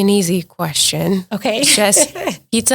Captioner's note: laughs